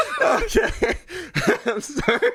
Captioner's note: laughs